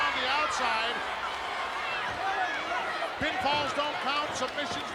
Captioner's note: applause